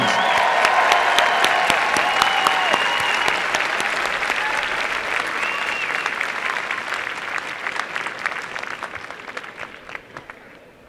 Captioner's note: applause and cheering